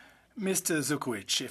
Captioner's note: speaking French